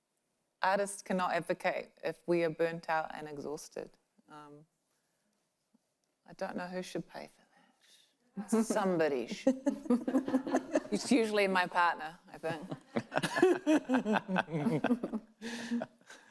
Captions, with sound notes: Artists cannot advocate if we are burnt out and exhausted. I dunno who should pay for that? Somebody should. (panelists laughing) It's usually my partner, I think. (panelists laughing)